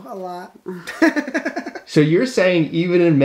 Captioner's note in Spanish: Risas